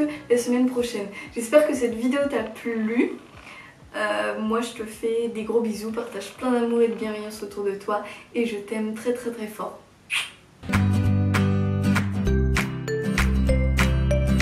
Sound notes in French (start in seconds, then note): 10.0 bruit de bisou; 10.6 Musique d'outro